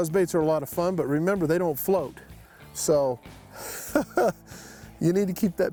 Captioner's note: chuckles